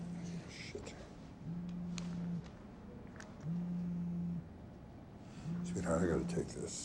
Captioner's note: phone vibrating